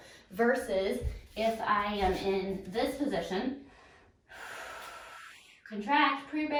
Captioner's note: exhales